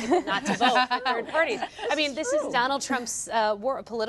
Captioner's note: laughter